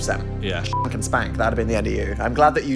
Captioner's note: beep